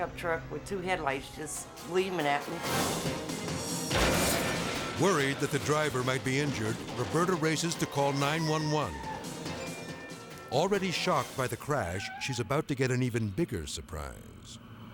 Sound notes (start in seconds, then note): 2.6 truck crashes; 3.9 objects clattering